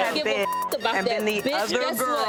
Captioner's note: beep